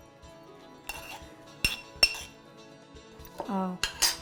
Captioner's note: spoon scrapping